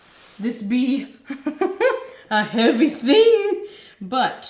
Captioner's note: laughing